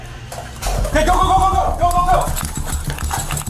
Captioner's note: gun firing